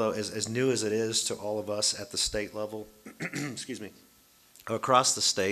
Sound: coughs

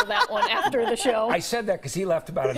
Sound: laughter

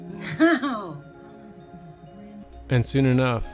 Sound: woman laughing

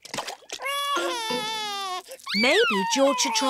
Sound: cries

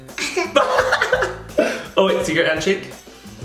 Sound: laughing

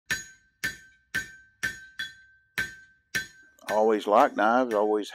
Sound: metal banging sound

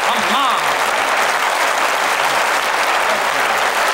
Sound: applause

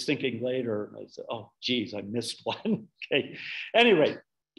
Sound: laughing

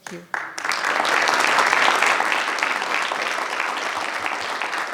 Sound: audience applauding

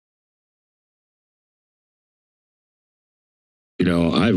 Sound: silence

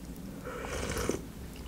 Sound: eating sound

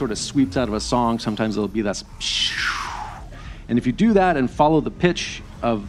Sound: makes downward pitch swooshing sound

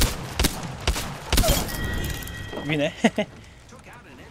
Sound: laughs

